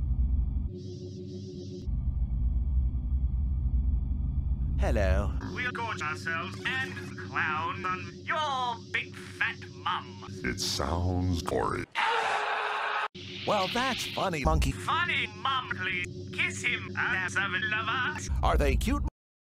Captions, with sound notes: Hello. We'll gorge ourselves and clown on your big fat mum. It sounds...gory. (screaming) Well, that's funny monkey! Funny monkey! Kiss him. I have seven lovers. Are they cute?